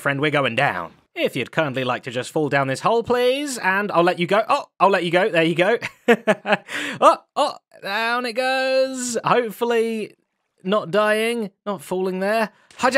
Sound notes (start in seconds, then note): 5.8 chuckles